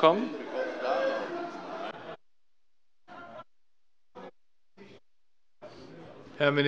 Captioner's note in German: Heiterkeit der Abg